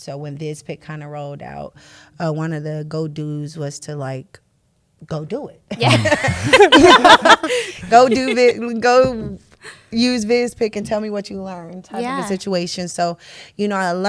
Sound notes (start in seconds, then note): 5.8 laughter